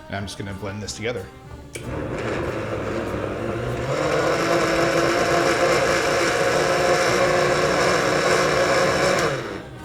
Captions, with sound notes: I'm just going to blend this together. (blender grinding)